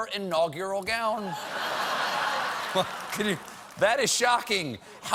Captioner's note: laughter